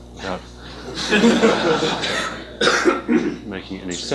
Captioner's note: laughter